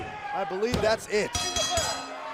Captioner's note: bell ringing